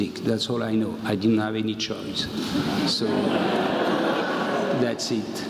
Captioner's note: laugh